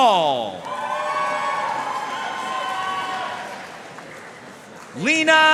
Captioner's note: audience cheering and applauding